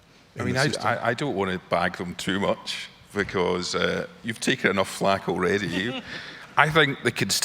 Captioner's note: laughs